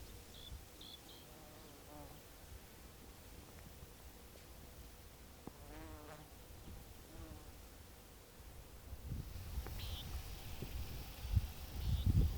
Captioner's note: bird calls and insects chirping